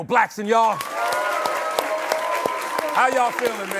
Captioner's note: cheers and applause